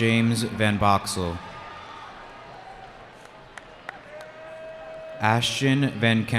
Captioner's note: cheering